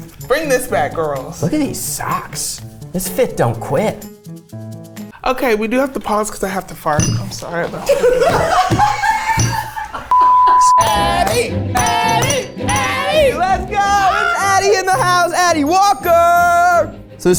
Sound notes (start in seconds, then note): 7.0 metal clinks; 7.8 both laughing